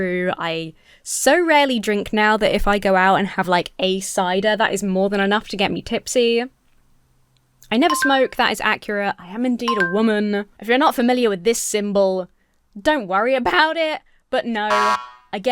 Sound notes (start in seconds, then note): 7.9 bell dings; 14.7 buzzer buzzes